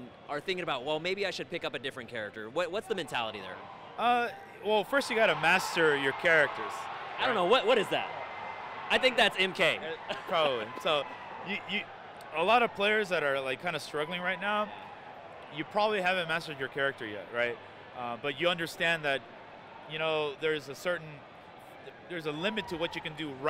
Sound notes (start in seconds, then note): 6.5 crowd yelling